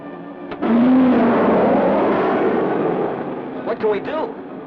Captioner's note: projectile roaring